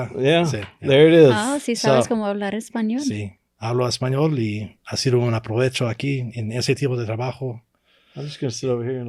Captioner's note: speaking Spanish